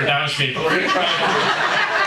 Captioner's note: audience laughing